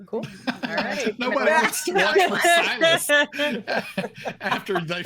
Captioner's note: laughs